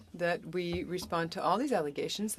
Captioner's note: speaking French